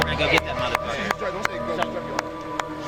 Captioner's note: player Chatter